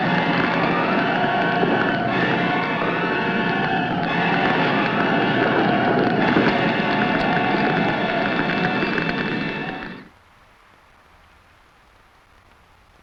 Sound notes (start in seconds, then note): 4.2 flames crackling; 4.2 flames roaring